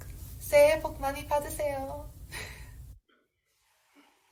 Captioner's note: speaking Korean